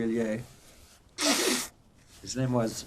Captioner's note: wiping nose